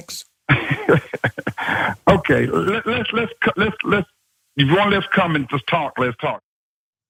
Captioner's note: laugh